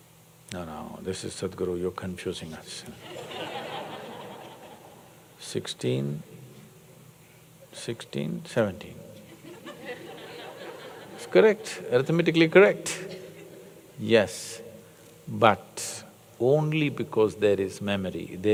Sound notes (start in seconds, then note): 3.0 laughter; 9.2 laughter